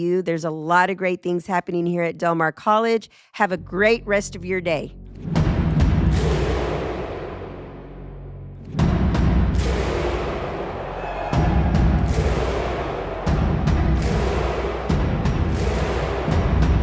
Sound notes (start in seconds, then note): 5.4 crowd stomping and clapping; 11.1 crowd cheering